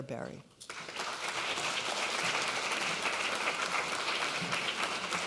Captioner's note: audience applauds